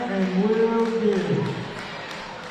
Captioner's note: applause